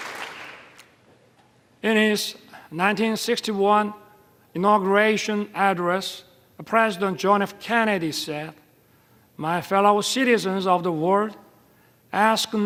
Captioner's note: applause